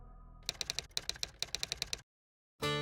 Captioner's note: typewriter sounds